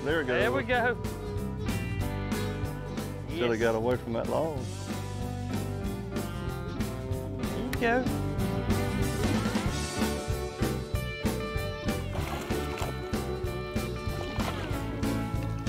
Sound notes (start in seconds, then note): 8.8 upbeat music; 12.0 fish splashing